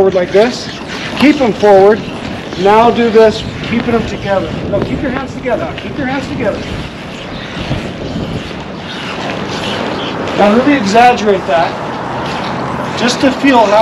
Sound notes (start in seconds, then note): 9.1 wheels creaking